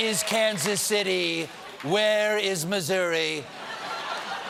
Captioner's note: laughter